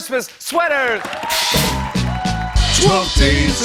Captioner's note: cheers and applause